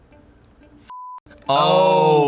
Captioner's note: beep